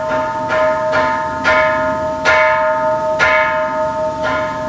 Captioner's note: Kansho ringing